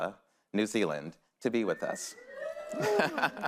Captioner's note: laughs